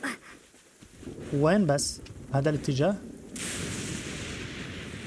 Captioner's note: thunder rumbling